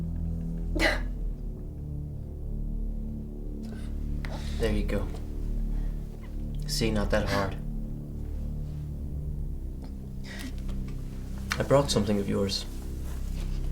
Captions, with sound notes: [Ashley crying] There you go. See, not that hard. I brought something of yours.